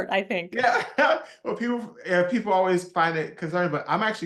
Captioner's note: laugh